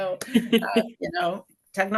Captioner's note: laughs